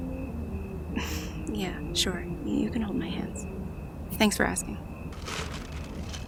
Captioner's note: shyly; sound of ice packs placed gently